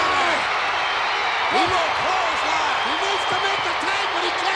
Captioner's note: crowd cheers